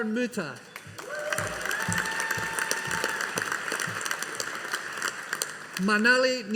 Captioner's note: audience applauding